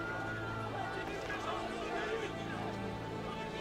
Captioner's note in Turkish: Yuhalama sesleri